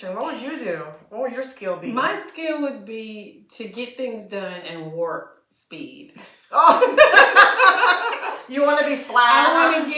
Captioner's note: laughter